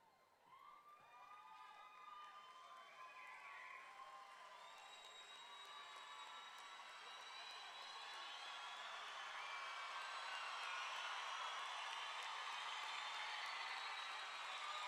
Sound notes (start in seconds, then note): 3.8 audience cheering; 3.8 audience clapping